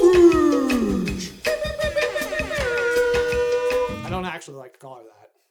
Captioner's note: air horn